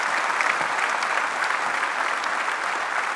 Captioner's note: applause